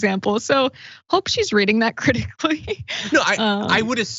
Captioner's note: laugh